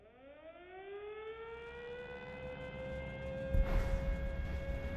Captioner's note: air raid sirens blaring; bombs exploding